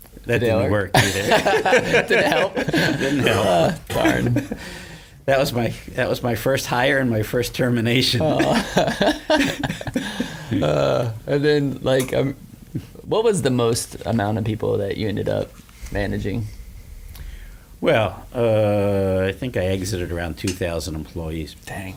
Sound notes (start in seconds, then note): 0.9 men laughing; 0.9 laughs; 8.2 laughs